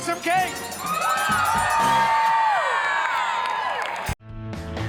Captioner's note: crowd cheers and bells ring